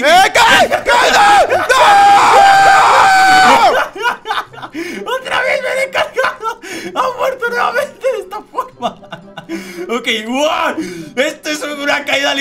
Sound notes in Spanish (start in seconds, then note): 10.3 Emocionado